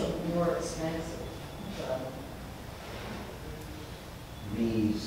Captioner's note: speaks away from mic